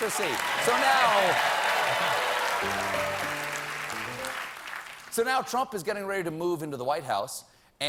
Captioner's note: cheers